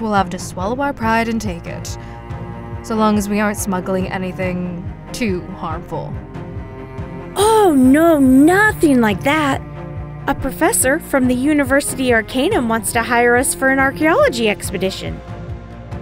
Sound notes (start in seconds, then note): none